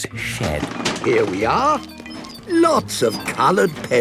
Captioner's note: bangs and rattles